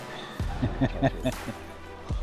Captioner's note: laughing